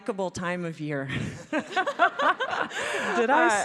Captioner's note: laughing